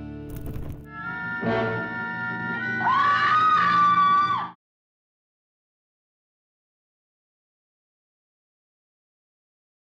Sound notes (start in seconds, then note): 1.2 person screaming